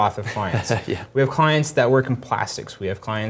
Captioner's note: laugh